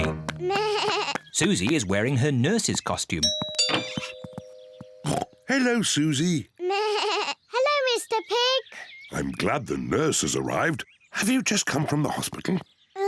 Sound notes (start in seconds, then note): 0.1 bleats; 3.2 doorbell rings; 5.0 oinks; 6.8 bleats